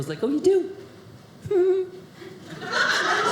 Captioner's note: audience laughing